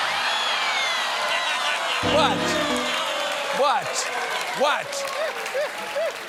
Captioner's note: cheers and applause